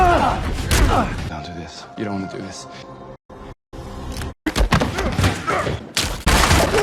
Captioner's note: fighting noises; more fighting noises